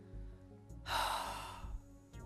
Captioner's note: sighs